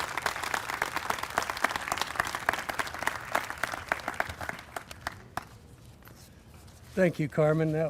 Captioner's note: applause